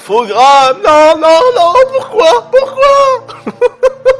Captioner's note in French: rires